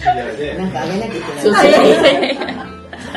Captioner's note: laughs